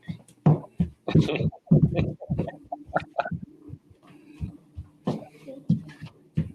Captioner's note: chuckles